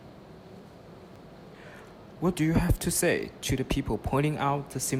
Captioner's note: voiceover